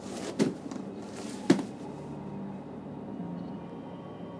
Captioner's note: legs thudding